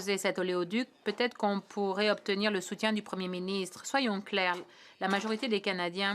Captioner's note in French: voix de l'interprète